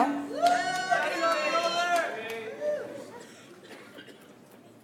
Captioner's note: audience applauds